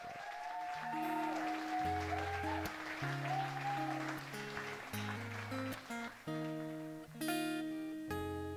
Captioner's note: applause